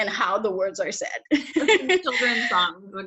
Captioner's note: laughs